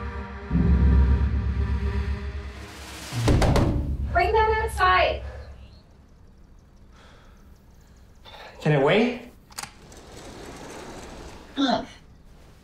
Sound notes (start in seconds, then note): 3.3 knocking on glass; 9.5 glass door sliding open